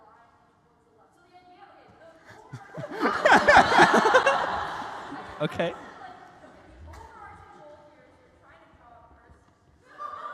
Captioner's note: หัวเราะ